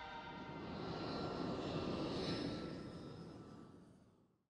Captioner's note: airplane engine roars